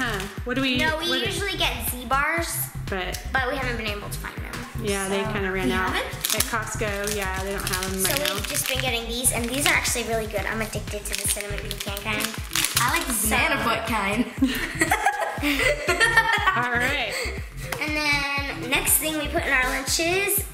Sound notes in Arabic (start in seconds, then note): 14.0 يضحك